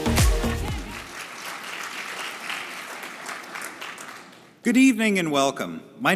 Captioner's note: upbeat music; audience applauding